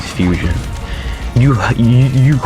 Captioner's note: inhales Oxygen